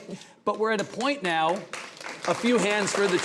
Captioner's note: audience applauding